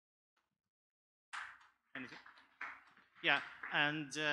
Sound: audience applauds

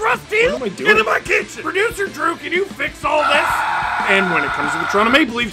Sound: screaming

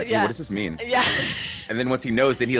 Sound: laugh

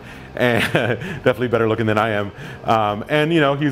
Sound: laughs

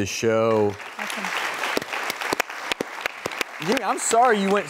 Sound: audience clapping

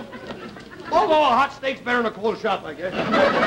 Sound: audience laughter

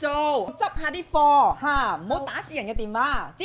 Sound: in Cantonese

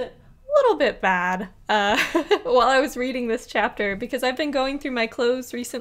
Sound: laughs

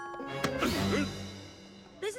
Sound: grunts

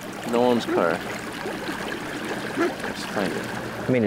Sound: water bubbling

